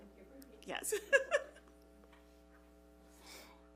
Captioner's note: laughs